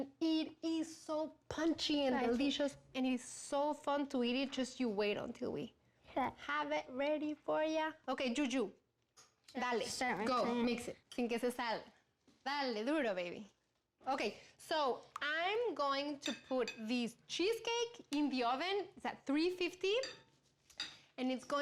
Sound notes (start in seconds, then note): 9.5 speaks spanish; 11.7 speaking spanish